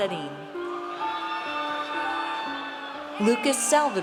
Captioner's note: audience cheers